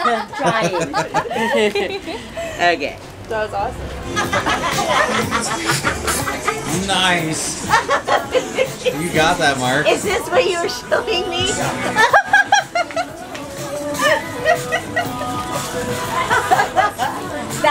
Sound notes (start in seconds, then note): 0.0 celebratory laughter; 4.0 hysterical laughter; 7.6 laughter; 11.9 laughter